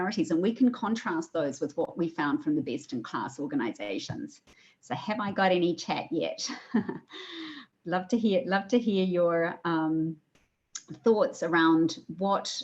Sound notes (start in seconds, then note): 6.4 laughs